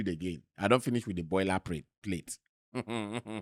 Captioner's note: laughs